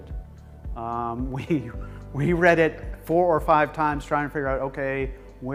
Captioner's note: laughs